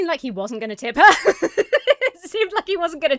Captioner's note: laughs